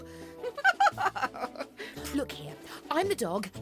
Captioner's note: chuckles